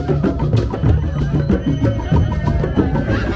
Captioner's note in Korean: 소리질러줘!!